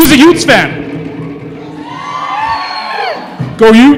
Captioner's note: cheering